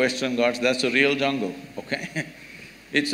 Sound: laughs

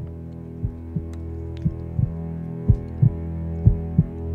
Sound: heartbeat thumping

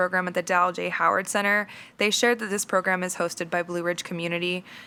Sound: none

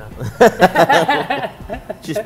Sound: laughing

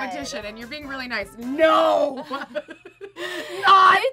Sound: laughs

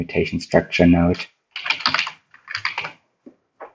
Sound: typing on keyboard

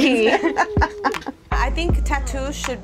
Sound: all laughing

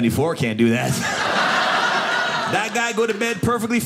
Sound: audience laughing

